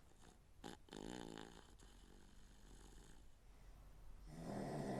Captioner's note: Phil snoring